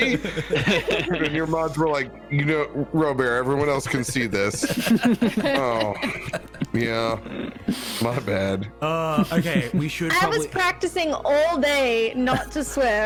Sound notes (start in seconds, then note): 4.5 all giggling